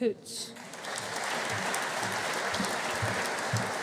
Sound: audience applauding

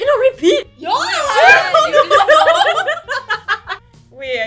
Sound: laughs in disbelief

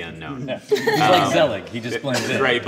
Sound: laughter

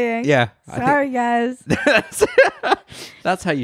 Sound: laughs loudly

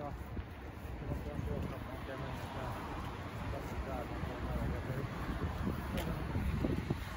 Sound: wind

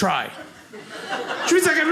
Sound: audience laughing

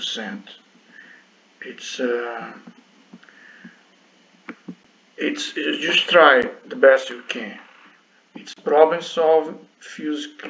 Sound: click

